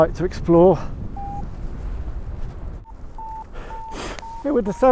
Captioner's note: Vario beeps